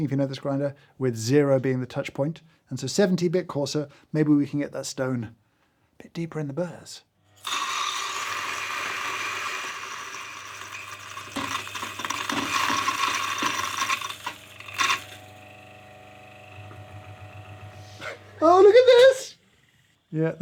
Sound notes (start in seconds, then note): 7.5 beans grinding; 7.5 grinder whirring; 11.4 stone thudding and clacking; 15.1 grinder whirring; 18.1 chuckles